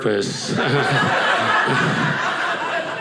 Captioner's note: audience laughing